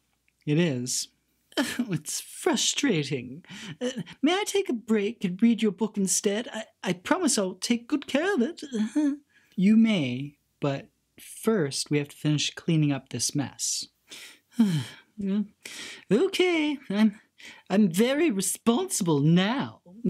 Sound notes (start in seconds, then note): 8.7 laughs uncomfortably; 14.1 sighs